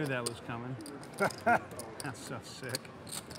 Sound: laughing

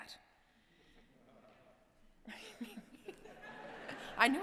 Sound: laughter

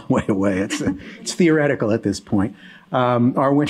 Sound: chuckling

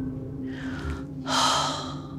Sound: sighing

